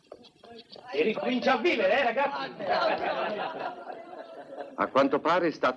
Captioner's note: men laughing